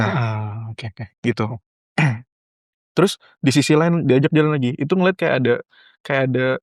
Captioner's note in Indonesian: berdehem